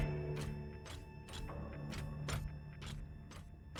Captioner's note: click